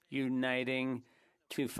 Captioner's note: speaking French